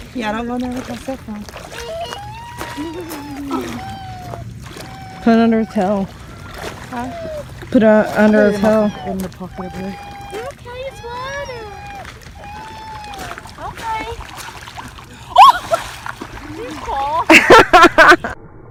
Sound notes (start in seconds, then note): 6.7 water sloshing; 17.1 person laughing